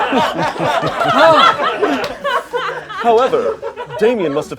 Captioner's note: chuckling gently